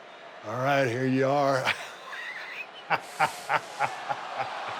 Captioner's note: laughs